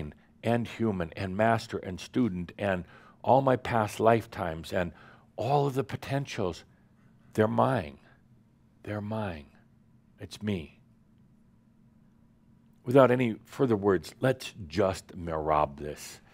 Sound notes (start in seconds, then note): none